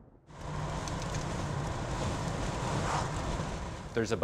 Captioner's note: engine purring